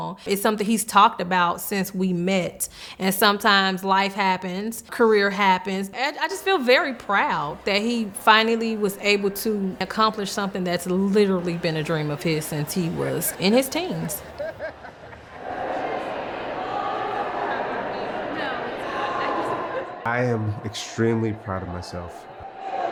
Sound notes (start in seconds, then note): 14.2 laughing; 15.4 people chattering; 19.8 laughs